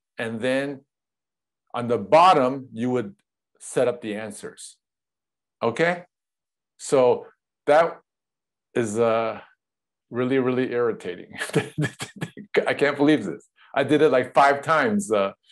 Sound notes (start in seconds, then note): 11.4 laughs